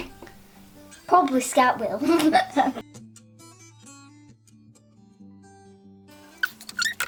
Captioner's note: giggles